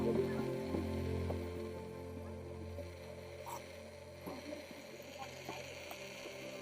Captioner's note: gentle music continues; tourists chattering